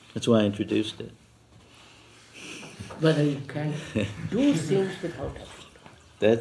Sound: laughs

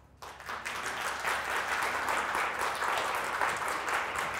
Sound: audience applauds

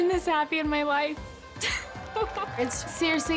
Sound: laughs

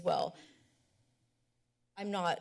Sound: pause

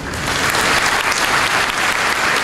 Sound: applause

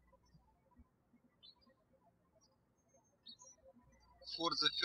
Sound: birds chirping

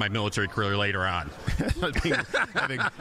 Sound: both laughing

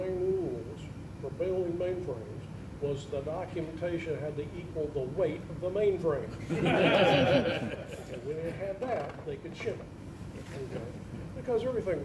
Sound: audience laughs

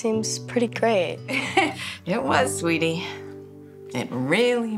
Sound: laughs

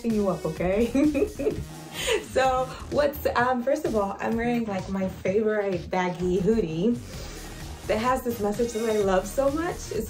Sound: laughs

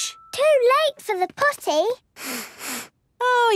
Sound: sniffs

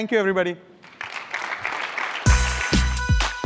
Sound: applause

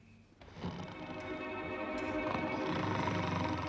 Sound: snoring

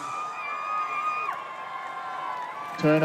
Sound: whooping and cheering

